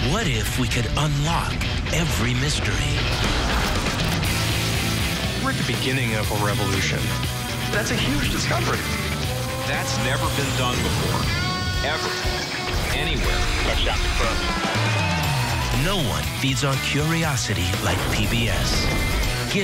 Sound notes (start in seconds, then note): 0.2 voiceover; 3.0 rock music; 5.5 voiceover; 14.0 voiceover